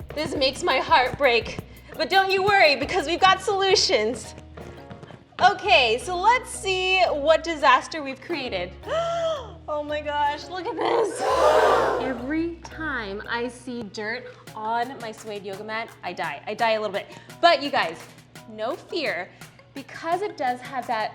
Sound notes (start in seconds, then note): 11.1 sound of crowd gasping; 11.1 gasps